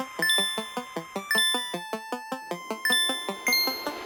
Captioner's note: arrow chiming